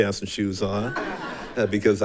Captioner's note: attendees laughing